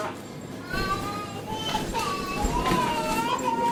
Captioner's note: child crying; checkout beeping